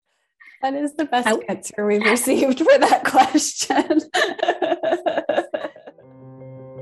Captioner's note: laughter